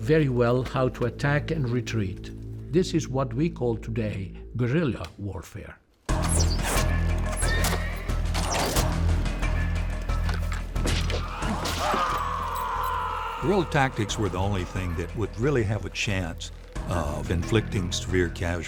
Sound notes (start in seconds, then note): 11.1 screams